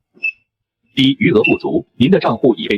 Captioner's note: beep